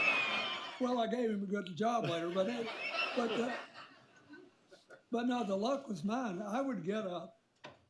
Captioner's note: laughter; laughter